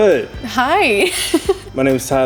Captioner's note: laughs